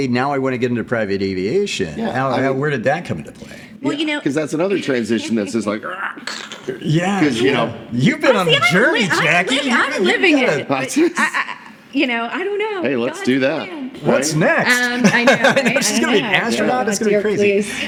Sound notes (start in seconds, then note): 5.8 grunting; 14.8 laughing